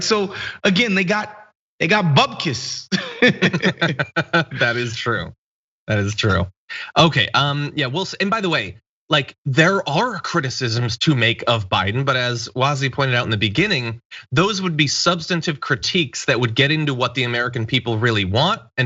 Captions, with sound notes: So, again, they got Bubkis. [LAUGH] >> That is true, that is true. Okay, and by the way, there are criticisms to make of Biden, but as was he pointed out in the beginning, those would be substantive critiques that would get into what the American people really want.